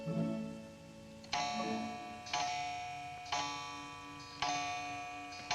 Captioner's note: clock chiming